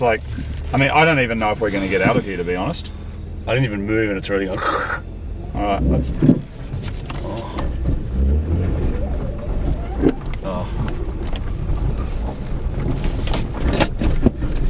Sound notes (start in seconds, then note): 6.2 scrapping; 7.8 engine revs; 9.8 scrapping; 13.2 more scrapping